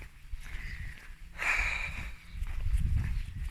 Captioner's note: sigh